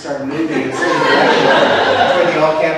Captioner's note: audience laughs